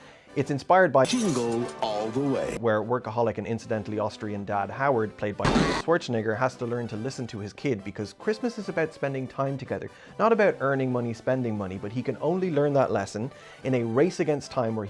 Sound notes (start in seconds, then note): 5.4 impact sound